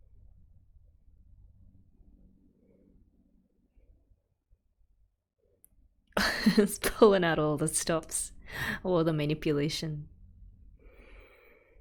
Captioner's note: laughs